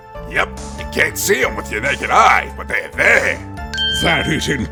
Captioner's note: none